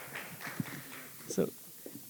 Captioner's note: applause